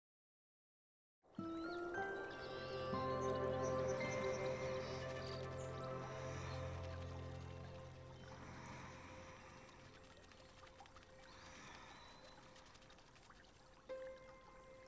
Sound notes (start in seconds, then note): 3.0 birds chirping; 6.4 deep breathing